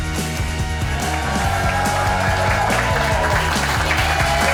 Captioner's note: crowd cheers